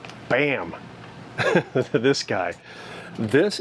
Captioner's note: laughing